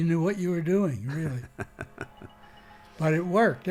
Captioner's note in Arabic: يضحك